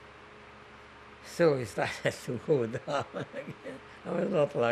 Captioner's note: laughing